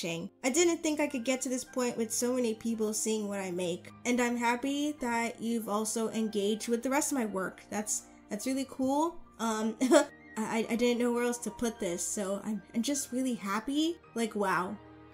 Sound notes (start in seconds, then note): 9.8 laughs